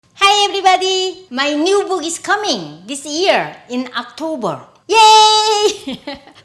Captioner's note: laughs